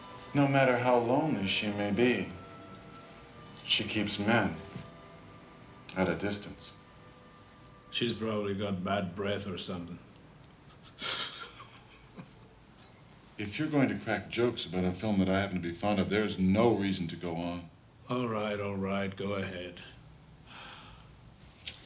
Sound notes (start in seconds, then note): 10.6 chuckles